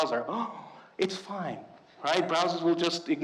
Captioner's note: gasps